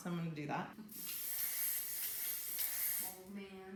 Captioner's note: spraying hairspray